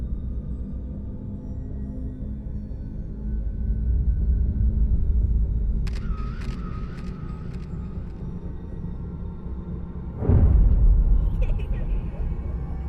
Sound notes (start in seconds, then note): 5.8 camera click; 10.3 thump; 11.3 children laughing